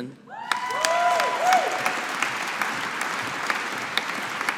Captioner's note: audience applauding